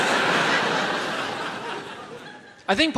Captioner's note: audience laughs